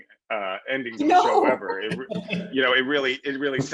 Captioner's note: laughs